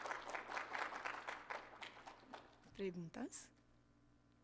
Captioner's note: Aplausos